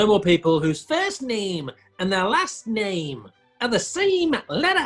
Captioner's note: squeaky exaggerated mancunian accent